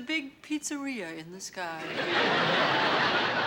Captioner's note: laughter